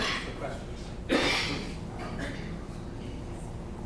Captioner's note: coughing